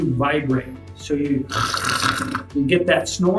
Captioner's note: snores